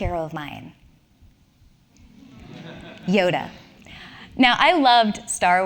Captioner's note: laugh